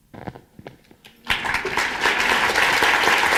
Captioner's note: applause